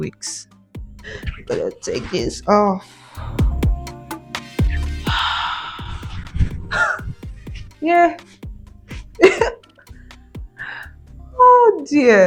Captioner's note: sighs